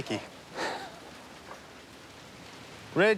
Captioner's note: chuckles